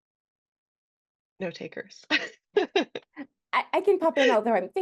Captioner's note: laughs